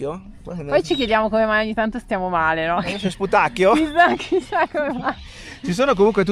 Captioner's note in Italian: risate